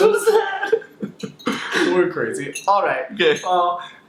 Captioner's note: both laugh